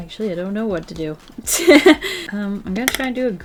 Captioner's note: laughs